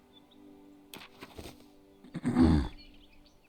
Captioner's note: cleared throat